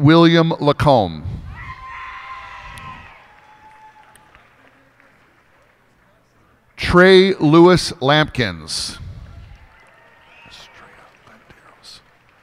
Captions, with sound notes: Dane William Lacombe. [cheers and applause] Trey Lewis Lampkins. [cheers and applause]